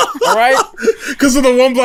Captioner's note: laughter